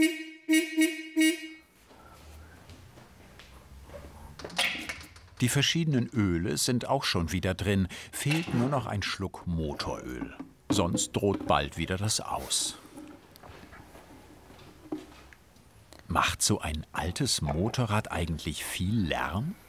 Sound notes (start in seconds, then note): 1.5 horns stop